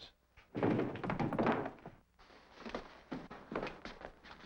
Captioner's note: body thudding